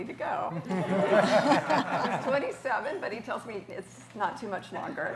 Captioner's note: laughter